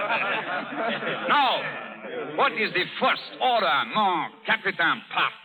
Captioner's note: laughter